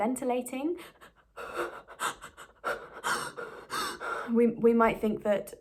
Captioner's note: replicates the sound of extreme shortness of breath